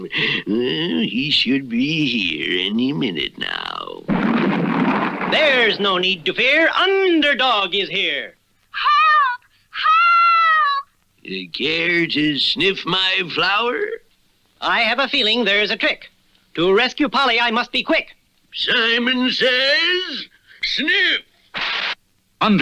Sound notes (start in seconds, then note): 4.0 crash!